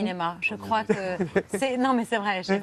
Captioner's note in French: rires